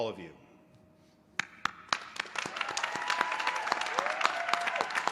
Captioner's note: applause